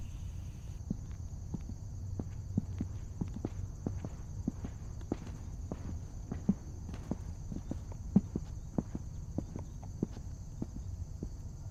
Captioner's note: footsteps